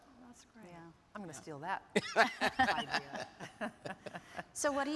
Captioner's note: laughs